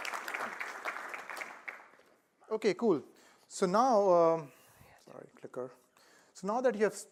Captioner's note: applause